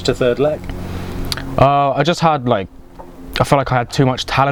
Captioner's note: clicks tongue